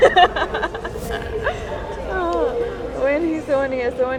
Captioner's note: laughing